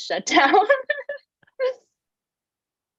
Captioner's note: laughs